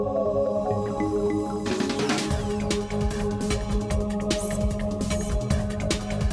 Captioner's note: laser firing; lady whispering "secrets"